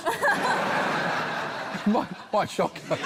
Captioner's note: laughter